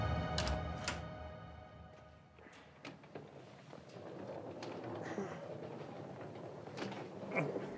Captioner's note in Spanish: sonido al abrir la puerta